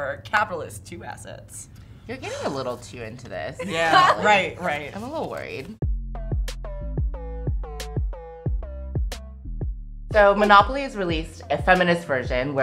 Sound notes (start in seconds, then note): 3.6 laughing; 5.9 upbeat electronic music